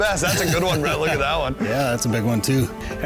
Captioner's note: laughter